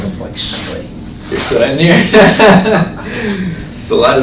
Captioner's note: laughing